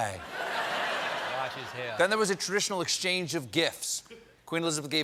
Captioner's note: laughter